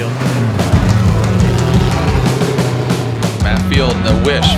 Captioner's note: car engines roar